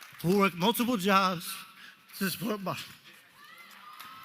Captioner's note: voice breaking